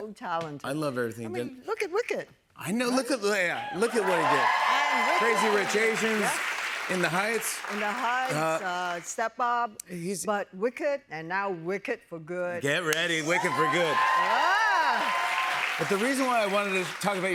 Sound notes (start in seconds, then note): 3.5 cheers and applause